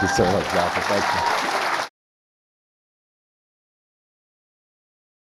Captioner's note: audience applauds